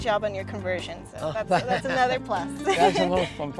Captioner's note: laughs